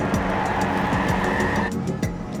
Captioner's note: tires screeching